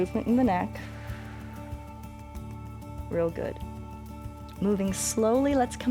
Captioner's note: exhales